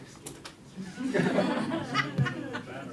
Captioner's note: laughter